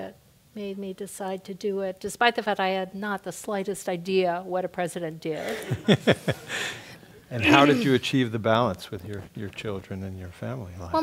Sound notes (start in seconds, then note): 5.4 laugh